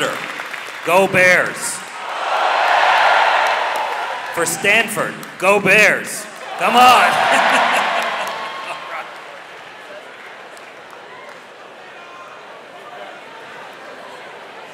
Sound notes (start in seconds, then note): 0.0 audience applauding; 6.9 laughs; 10.0 audience cheering